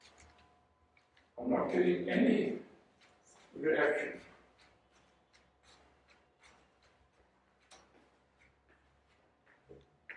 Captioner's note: sound of walking